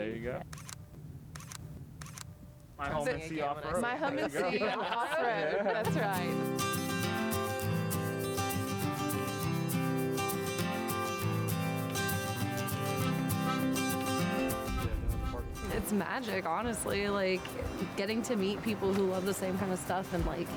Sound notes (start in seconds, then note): 1.9 camera clicking; 5.8 upbeat music